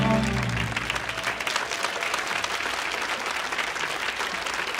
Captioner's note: audience cheering; audience applauding